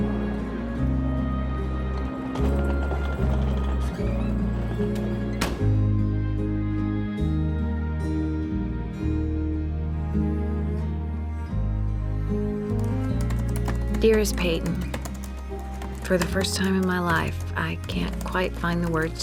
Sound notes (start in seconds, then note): 12.8 typing